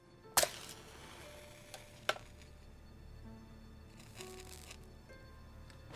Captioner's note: somber music; match striking